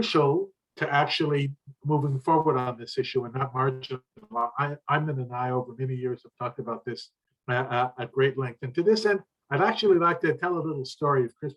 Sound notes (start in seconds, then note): 4.3 speaker interrupted by static